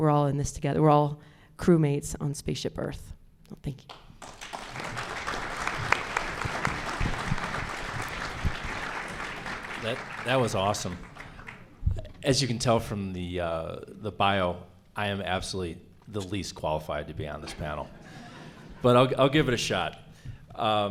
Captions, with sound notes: we're all crew mates on this spaceship Earth, thank you. [audience applauds] That was awesome. As you can tell from the bio, I am absolutely the least qualified to be on this panel, but I'll give it a shot.